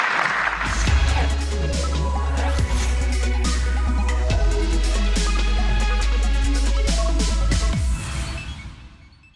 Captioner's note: applause